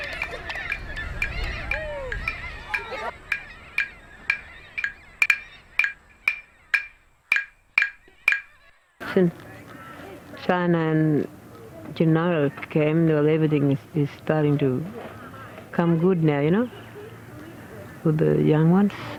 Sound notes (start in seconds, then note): 8.3 speaks English